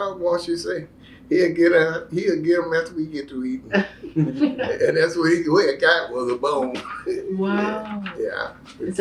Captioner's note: laughter